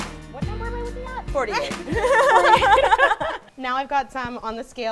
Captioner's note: laughing